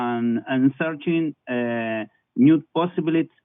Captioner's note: foreign language